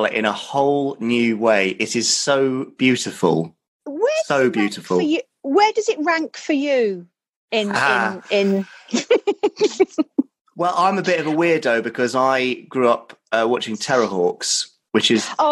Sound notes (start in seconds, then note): 7.6 laughing; 10.6 male Voice